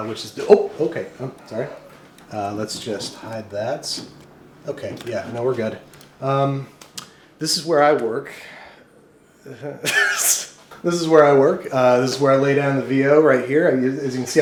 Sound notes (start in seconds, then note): 9.8 laughs